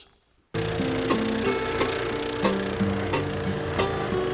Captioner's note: sander running